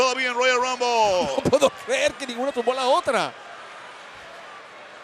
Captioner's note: laugh